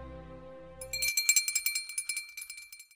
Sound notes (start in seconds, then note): 0.8 ringing